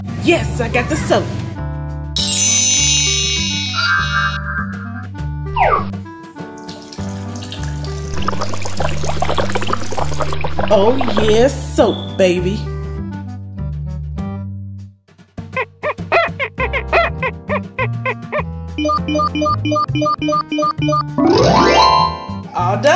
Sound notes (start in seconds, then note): 6.5 soap splashing; 15.4 dishes squeaking; 18.8 comical symphony